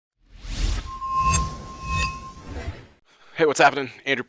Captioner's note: air whooshing